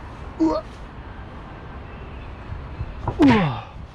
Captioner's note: groaning in spite of myself